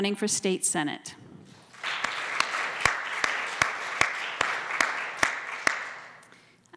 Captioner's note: applause